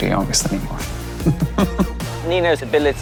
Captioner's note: chuckles